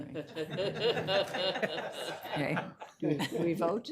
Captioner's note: attendees laughing